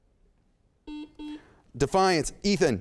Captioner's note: beep